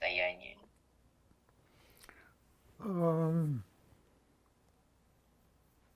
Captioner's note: pause 7 seconds